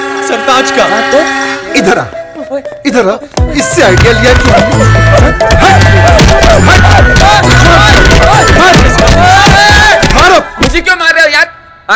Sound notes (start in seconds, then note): 5.1 Bumping sounds